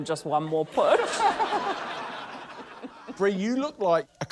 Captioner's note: laughter